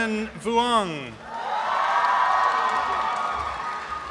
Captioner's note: applause and cheering